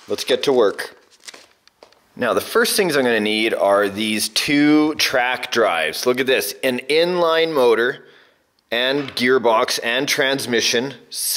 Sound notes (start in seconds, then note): none